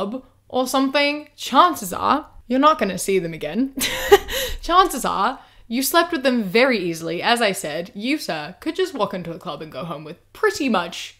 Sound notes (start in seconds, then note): 3.8 laughs